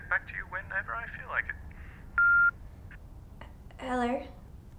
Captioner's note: machine beeping